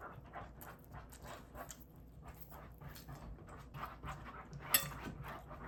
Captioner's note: sound of a dog scratching the sofa, angry because I ate alone